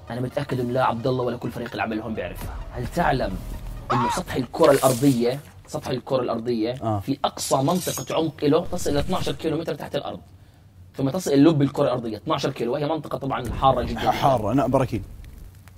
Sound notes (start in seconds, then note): 3.8 screams